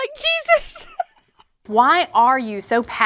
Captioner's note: laughs